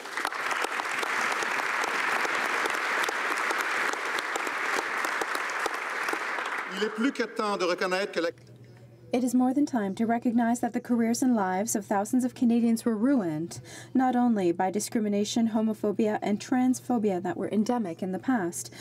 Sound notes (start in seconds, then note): 5.5 applause; 9.2 speaking French